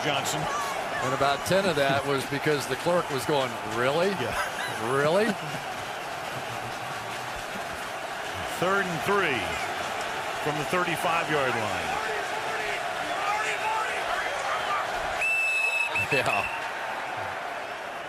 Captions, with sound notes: No, it comes as Johnson. And about 10 of that was because the clerk was going, really? Yeah. Really? Third and 3 from the 35-yard line. [shouting] [whistle blowing] Yeah.